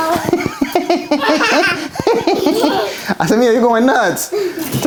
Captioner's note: giggling